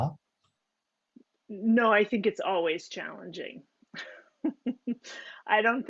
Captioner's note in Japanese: 笑い